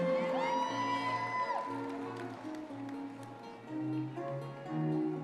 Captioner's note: audience cheering